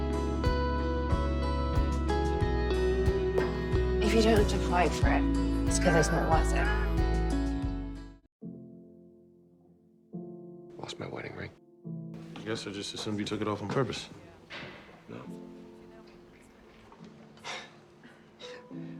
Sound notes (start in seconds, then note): 10.8 voiceover; 17.4 Max sighs